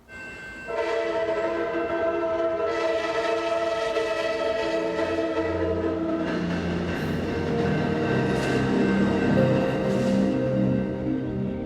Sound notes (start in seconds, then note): 0.6 train whistle; 5.8 somber music